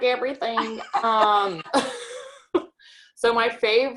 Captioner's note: both laughing